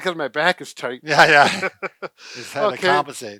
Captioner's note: laughs